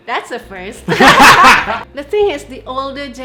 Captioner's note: laughter erupts